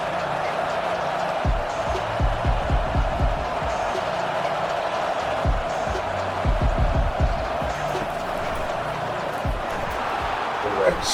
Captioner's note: crowd Noises